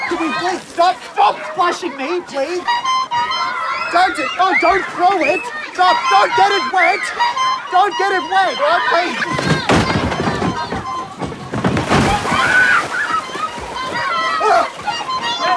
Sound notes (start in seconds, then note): 2.6 child honks horn; 9.3 table legs collapse, crashing; 11.8 splashing and laughter; 14.1 Trevor gasps; 15.3 children honk horn and splash